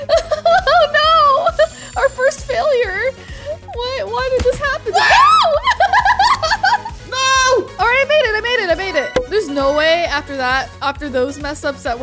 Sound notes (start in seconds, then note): 0.1 laughing; 4.9 screaming; 5.2 laughing